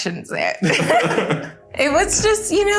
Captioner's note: everyone laughing